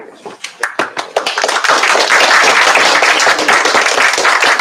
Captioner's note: applause